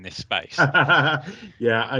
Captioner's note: laughing